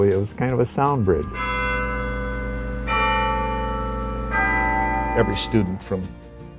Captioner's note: Campanile chimes ringing